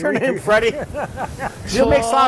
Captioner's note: laughter